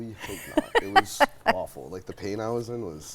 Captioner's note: laughs